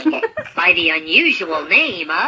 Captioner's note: laughter